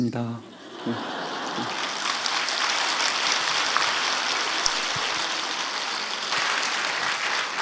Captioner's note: audience laughs/claps